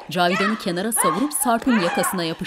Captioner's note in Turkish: Bağrışmalar